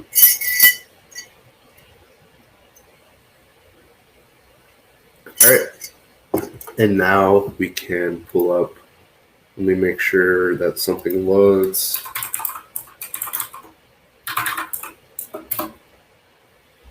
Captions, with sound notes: (metal clangs) All right. (cup thuds) And now, we can pull up... Let me make sure that something loads. (keyboard clacks)